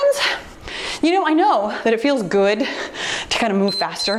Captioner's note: timer beeps